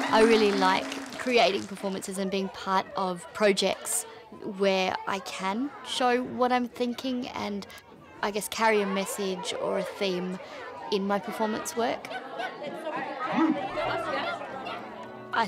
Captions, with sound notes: I really like creating performances and being part of projects where I can show what I'm thinking and I guess carry a message or a theme in my performance work. (yipping) (barking)